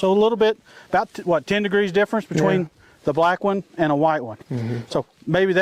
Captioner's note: mhmm